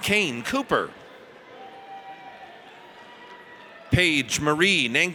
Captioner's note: audience cheers